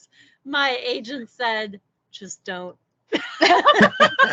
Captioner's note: laughing